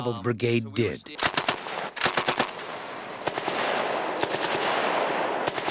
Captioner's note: gunfire